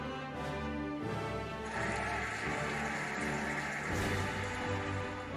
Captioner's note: cheering and applauding